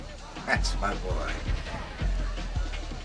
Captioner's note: chuckles